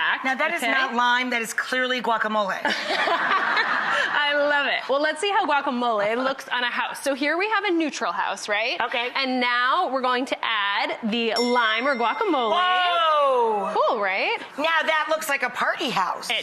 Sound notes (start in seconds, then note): 2.7 audience laughs